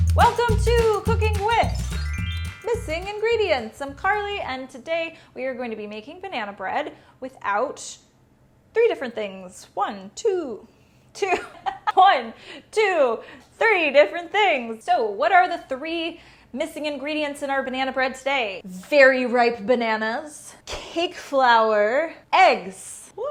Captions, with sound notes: Welcome to Cooking With Missing Ingredients. I'm Carly, and today we're going to be making banana bread without three different things. One, two, two (laughing) One, two, three different things. So what are the three missing ingredients in our banana bread today? Very ripe bananas, cake flour, eggs.